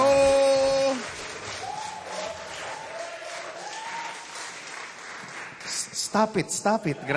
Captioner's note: cheering, applause